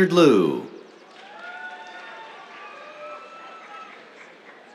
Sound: cheers, applause

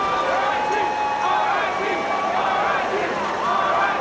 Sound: cheering

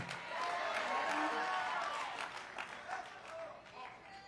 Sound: congregation applauding

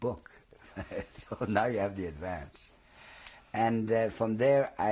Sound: laughs

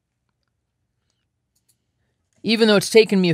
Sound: computer mouse clicking

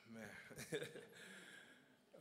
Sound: chuckles

